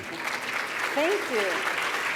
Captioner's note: applause